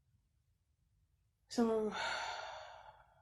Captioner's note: sighs